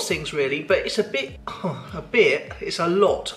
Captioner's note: sighs